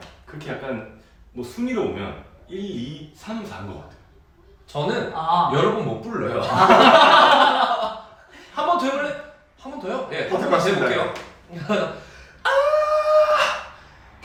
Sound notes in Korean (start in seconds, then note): 6.4 대폭소